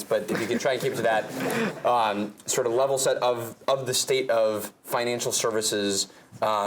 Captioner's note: laugh